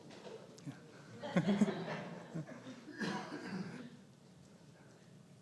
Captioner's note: audience laughing